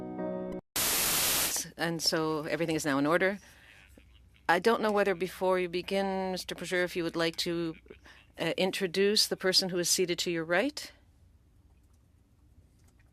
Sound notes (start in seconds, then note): 7.7 speaking French